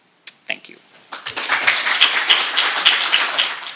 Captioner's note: applause